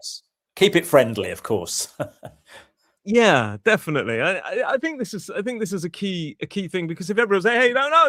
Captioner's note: laughter